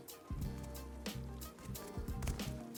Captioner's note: footsteps